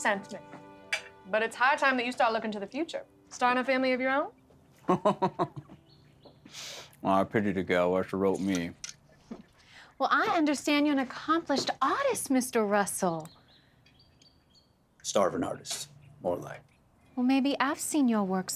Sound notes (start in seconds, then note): 4.8 laughter